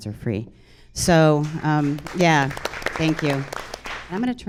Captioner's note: audience applauds